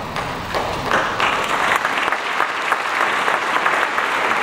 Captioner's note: audience applauds